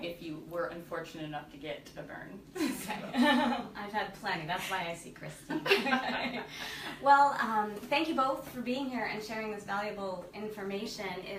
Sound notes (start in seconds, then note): 2.6 laughs